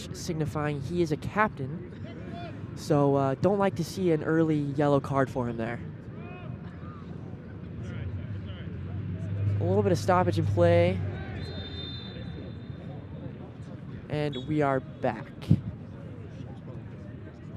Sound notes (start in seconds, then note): 11.2 whistle blows